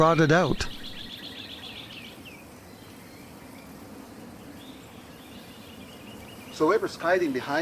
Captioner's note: birds chirping